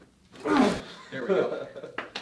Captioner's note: grunts